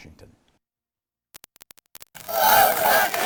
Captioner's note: chanting